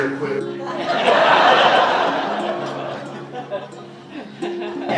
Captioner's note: audience laughs more